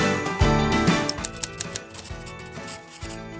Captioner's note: typewriter clacking; marker scratching